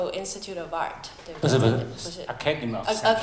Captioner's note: Mandarin